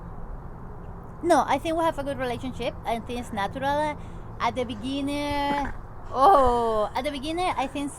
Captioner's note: baby burps